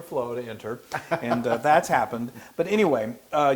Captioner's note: laugh